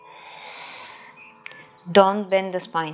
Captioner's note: exhaling